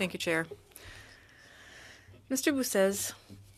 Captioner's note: speaking French